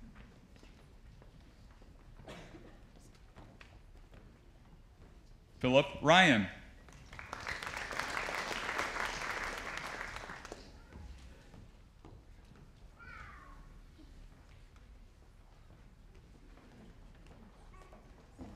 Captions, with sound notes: Philip Ryan. (audience applauding)